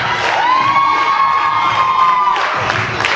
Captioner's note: audience cheers